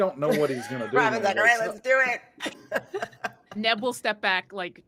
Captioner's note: laughing